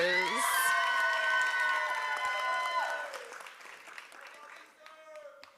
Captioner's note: applause